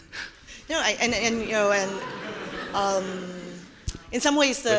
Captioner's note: audience laughing